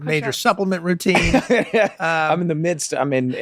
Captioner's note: Glenn laughing